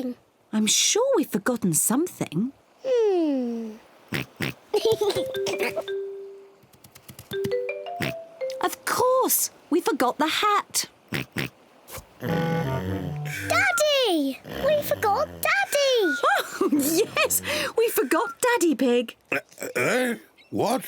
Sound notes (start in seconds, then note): 3.7 oinks; 8.0 oinks; 10.7 oinks; 10.7 snores; 14.4 laughs